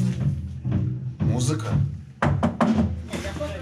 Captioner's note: muffled electronic music; knocks four times; chatter